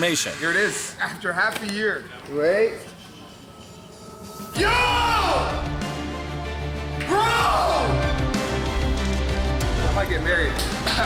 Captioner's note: screaming